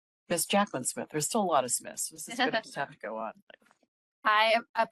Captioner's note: laughing